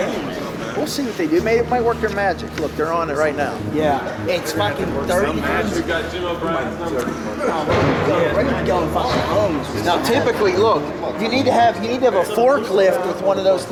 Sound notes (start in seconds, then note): 6.7 stadium Noise